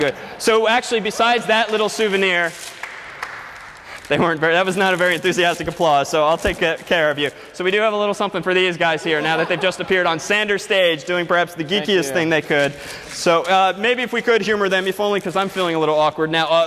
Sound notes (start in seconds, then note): 2.7 applause